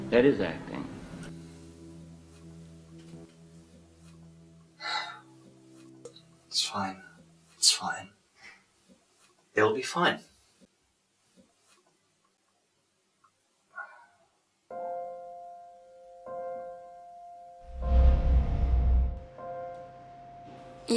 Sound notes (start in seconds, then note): 3.0 music fades; 4.8 exhales deeply